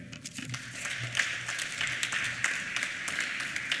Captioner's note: applause